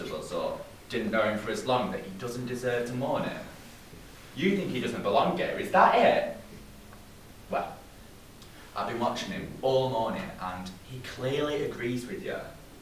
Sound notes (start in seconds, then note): none